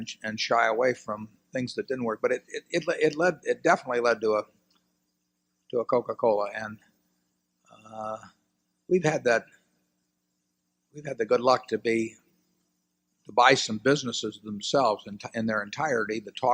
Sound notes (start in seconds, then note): none